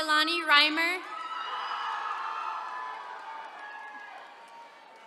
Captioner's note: attendees cheering